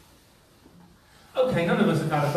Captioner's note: silence